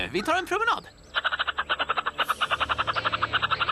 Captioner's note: chittering